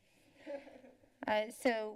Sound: chuckles

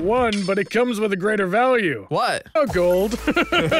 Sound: laughs

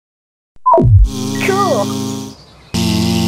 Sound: beep; buzz

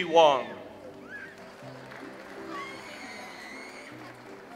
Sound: audience applauds

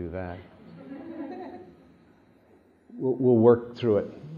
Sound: laughter

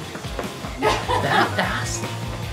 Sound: laughing

